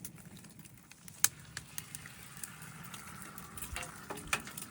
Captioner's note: egg sizzling